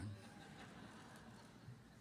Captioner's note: laughter